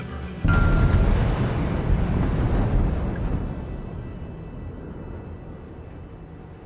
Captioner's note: gentle music; thunder rumbling